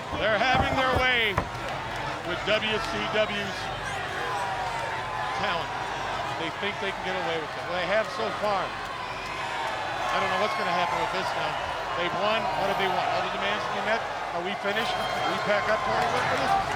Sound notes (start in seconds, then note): 0.0 crowd cheering; 3.7 crowd cheering